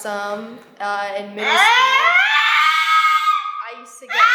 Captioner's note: vocalizing